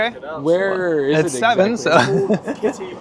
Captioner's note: laughs